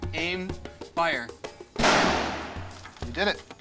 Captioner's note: gunshot